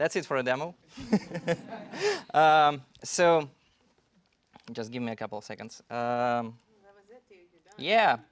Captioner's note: laugh